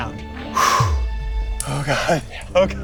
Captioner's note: exhaling sharply